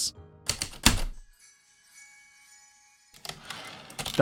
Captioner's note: heavy typewriter keystrokes, light chimes, typewriter return slide